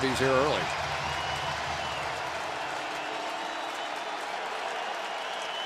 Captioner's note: cheering